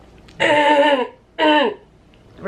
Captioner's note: clearing throat